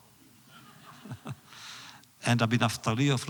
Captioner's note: laughs